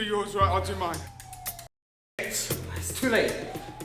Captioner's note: sirens wail; music drowns out speakers